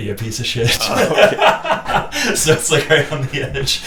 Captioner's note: laughing